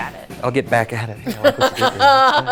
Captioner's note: murmurs; laughing